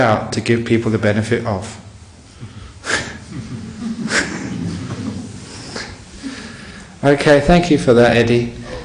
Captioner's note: laughter